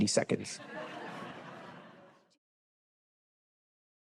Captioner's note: laughter